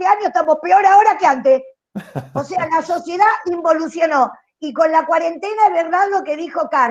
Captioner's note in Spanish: Risas